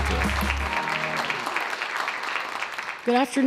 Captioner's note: applause